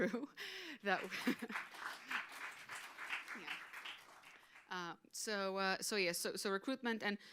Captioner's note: applause